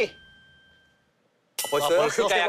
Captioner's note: silence